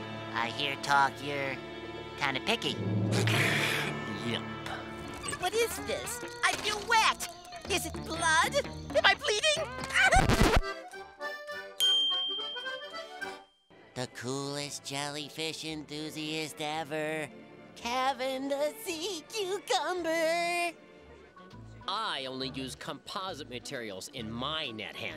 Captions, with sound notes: I hear talk you're kinda picky. [hisses] Yep. What is this? I feel wet! Is it blood? Am I bleeding? [record scratch] The coolest jellyfish enthusiast ever. Kevin the C. Cucumber. I only use composite materials in my net handle.